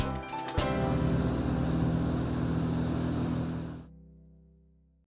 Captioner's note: boat engine humming